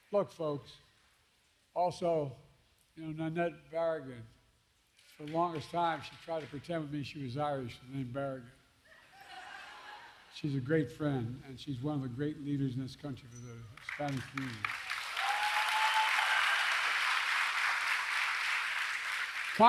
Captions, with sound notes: Look, folks, also, you know Nanette Barragán -- for the longest time, she tried to pretend with me she was Irish with the name Barragán. (Laughter.) She's a great friend, and she's one of the great leaders in this country for the Hispanic community. (Applause.)